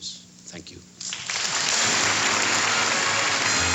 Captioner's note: applause